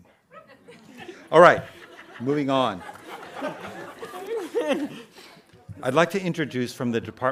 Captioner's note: audience laughing